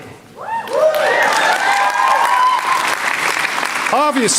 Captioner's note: applause